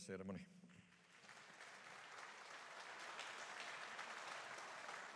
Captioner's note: audience applauding